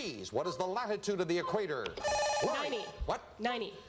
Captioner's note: buzzer